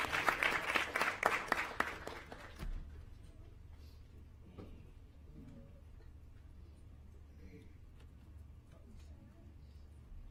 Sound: applause

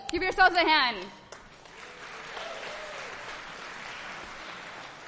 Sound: applause

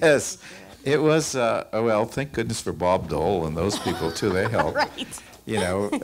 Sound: laughs

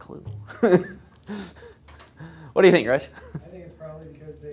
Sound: laugh

